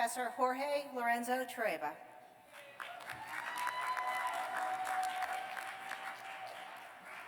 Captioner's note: cheers and applause